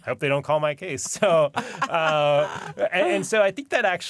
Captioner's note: laughter